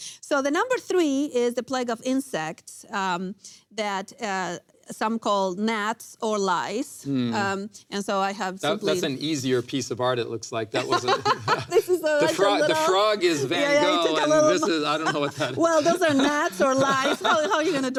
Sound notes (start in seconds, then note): 10.8 laughs; 13.4 both laughing